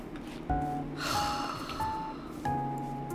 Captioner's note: dramatic sigh